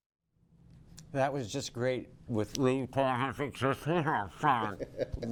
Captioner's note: imitating talking with the mask on